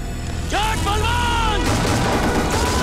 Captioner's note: Gunshots